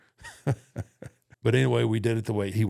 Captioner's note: Undertaker chuckles